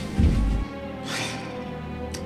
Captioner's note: sigh